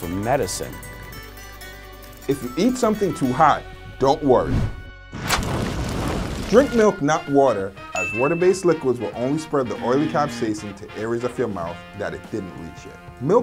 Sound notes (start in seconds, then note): 0.1 string instruments playing; 5.1 flames burning